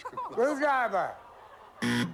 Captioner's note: buzzer